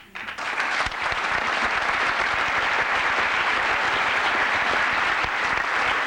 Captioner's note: applause